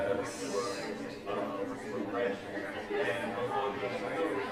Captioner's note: chatter